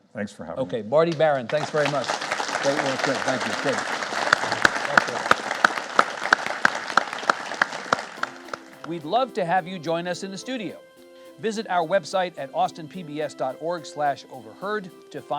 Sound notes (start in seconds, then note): 2.2 audience applauds; 6.5 audience applauds